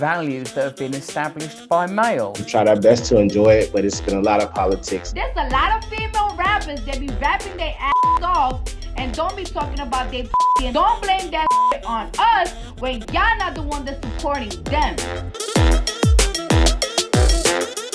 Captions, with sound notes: values that have been established by male? - We try our best to enjoy it, but it's been a lot of politics. - That's a lot of female rappers that be rapping their (beep) off and don't be talking about they (beep) don't blame that (beep) on us when y'all not the one that's supporting them. (techno music)